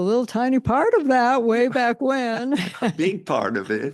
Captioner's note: chuckles